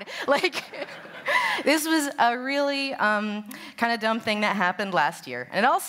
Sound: laughter; laughs

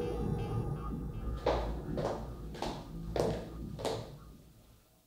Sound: heels clicking

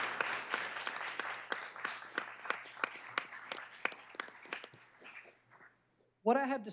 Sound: applause

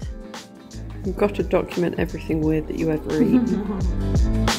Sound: laughing

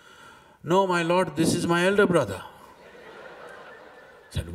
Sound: laughter

